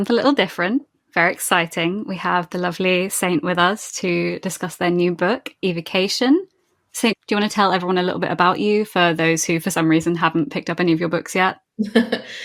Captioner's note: laughs